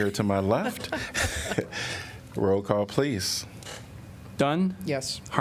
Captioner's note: laughter